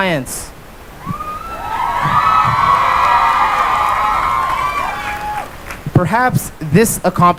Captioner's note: cheering and applause